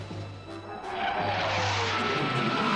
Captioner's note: jet engine streaking